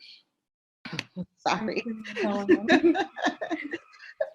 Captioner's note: laughing